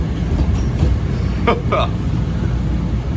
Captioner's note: chuckles